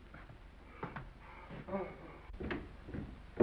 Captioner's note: Mr. Randall yawns; footsteps receding